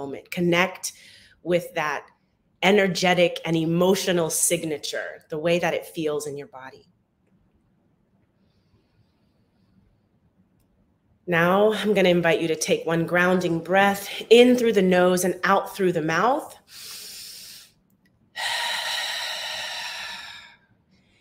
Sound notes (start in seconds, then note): 16.8 inhales; 18.3 exhales